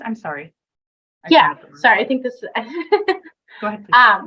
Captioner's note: chuckles